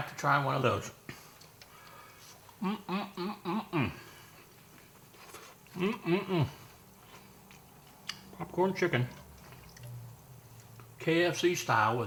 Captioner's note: yummy eating sounds